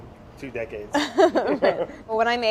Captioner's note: laughter